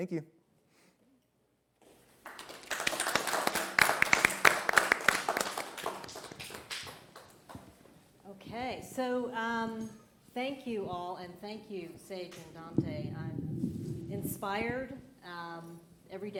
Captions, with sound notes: LET'S ALL BECOME THE COOLEST CAMPUS, THANK YOU. [ Applause ] >> THANK YOU, ALL. I'M